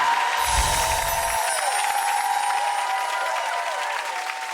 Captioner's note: audience cheering